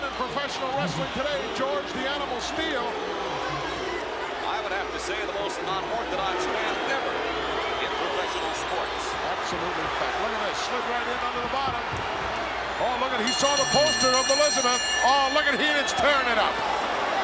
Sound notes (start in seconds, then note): 13.1 bell rings